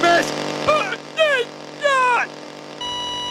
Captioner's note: grunting